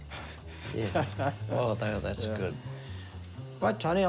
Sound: chuckles

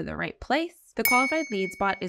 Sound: text overlay chiming

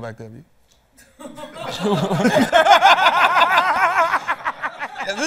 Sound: laughter

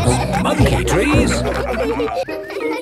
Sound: all laughing

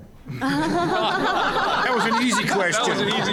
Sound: audience laughing

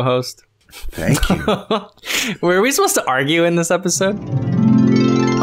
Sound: laughter

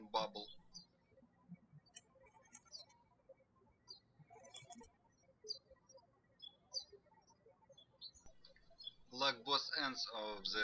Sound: birds chirping

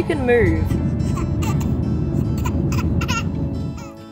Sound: laughs

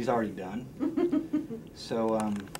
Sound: chuckles

